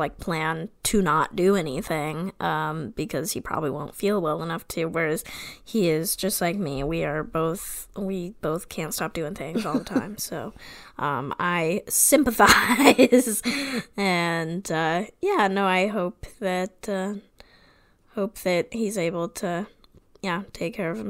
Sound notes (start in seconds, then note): 15.1 laughs